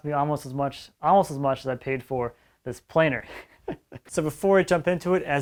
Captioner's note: chuckles